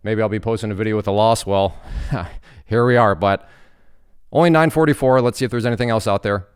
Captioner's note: laughs